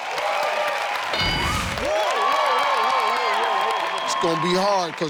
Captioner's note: audience cheers; ding sound